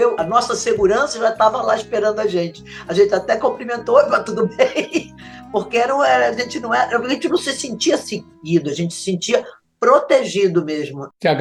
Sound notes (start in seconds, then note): 4.5 laughter